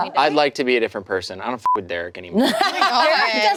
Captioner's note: beep